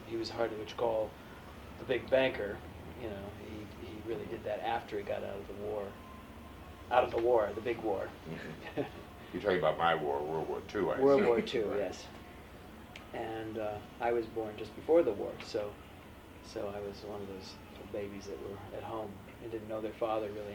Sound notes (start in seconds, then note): 8.2 laughs